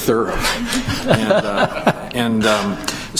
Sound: laughter

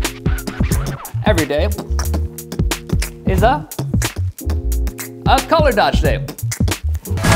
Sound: beatboxing

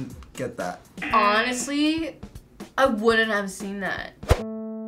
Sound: buzzer

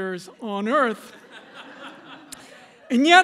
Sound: laughter

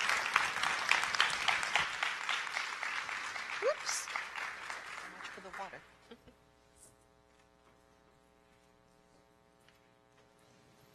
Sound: applause

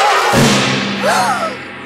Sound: gasping

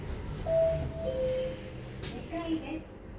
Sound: arrival chime

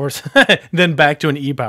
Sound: laughs

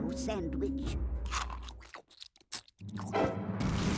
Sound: chomping

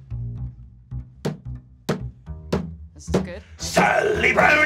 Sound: thumping desk

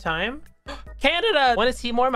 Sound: gasp

